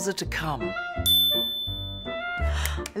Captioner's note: bell ringing